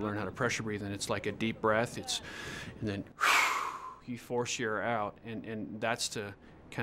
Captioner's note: exhale; inhale